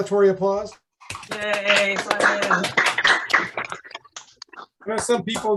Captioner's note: applause